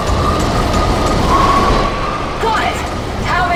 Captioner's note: weapons firing